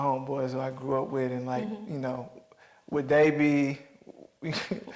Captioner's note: chuckles